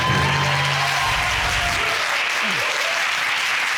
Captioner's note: audience cheering